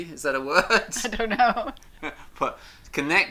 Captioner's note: laughs